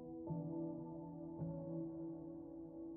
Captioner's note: none